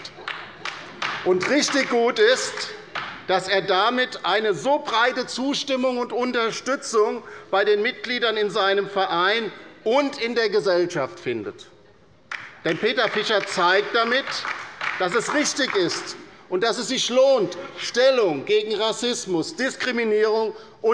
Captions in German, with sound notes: [Beifall bei der LINKEN] Und richtig gut ist, dass er damit eine so breite Zustimmung und Unterstützung bei den Mitgliedern in seinem Verein und in der Gesellschaft findet. [Beifall bei der LINKEN] Denn Peter Fischer zeigt damit, dass es richtig ist und dass es sich lohnt, Stellung gegen Rassismus, Diskriminierung